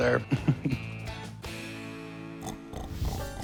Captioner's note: laughs